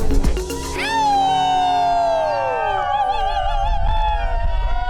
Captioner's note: crowd cheering